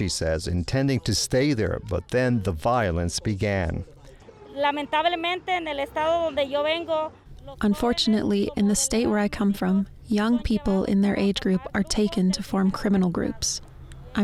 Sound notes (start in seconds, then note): 4.5 speaking Spanish